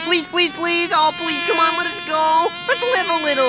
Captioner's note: fly buzzing